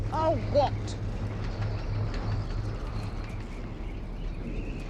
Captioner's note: wind whistling